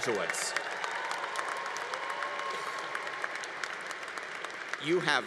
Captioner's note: congregation applauding